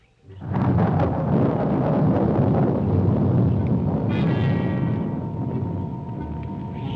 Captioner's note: thunder rumbling; mysterious music